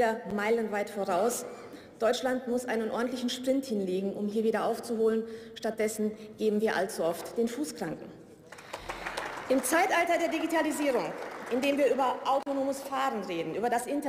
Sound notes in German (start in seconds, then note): 8.5 Beifall